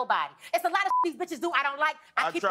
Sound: beep

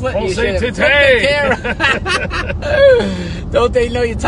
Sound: laughing

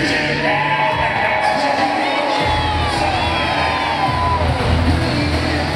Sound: crowd cheering drowns out announcer

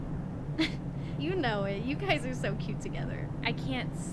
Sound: chuckles

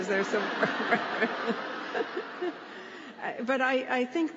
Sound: laughter

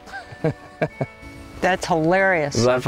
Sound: laughs

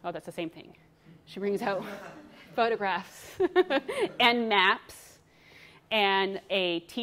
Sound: laughs

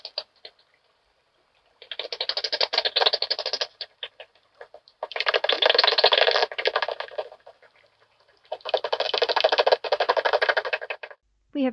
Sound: sound of echolocation clicks from a bat detector

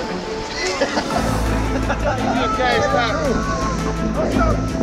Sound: men laughing

